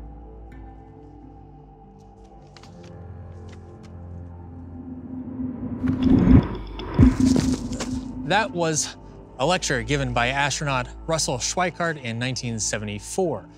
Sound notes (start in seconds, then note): 4.5 approaching whoosh; 6.8 spacious pop